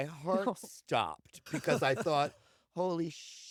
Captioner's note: laughter